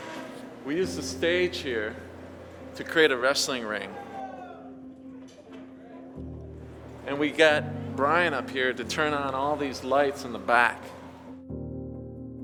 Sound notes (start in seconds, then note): 4.4 people chattering faintly